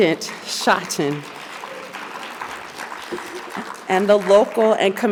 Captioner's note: audience applauding